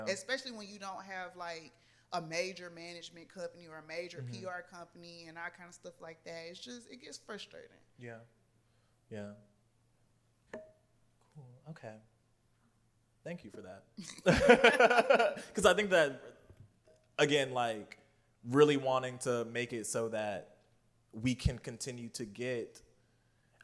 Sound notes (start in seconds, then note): 14.0 laughter